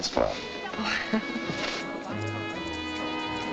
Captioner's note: laughs; dance music playing